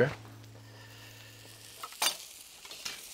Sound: burgers sizzling

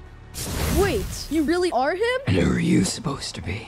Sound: flash electricity

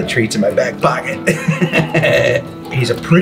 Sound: laughs

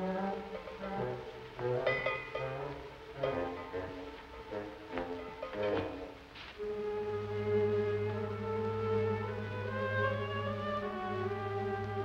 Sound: bell dinging

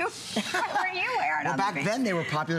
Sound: laughter

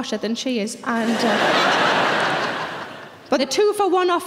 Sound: audience laughing

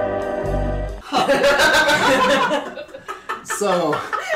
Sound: guilty laughter

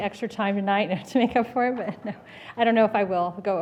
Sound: laughs

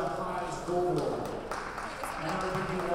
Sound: players applauding

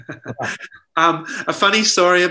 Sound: laughs

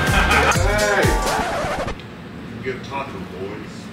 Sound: person laughs; record scratch

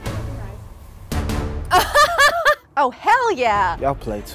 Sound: laughs

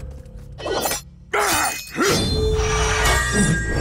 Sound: grunting

